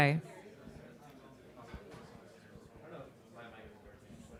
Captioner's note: chatter